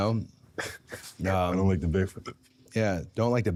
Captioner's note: Jey laughing; laughs